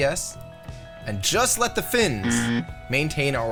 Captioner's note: buzzing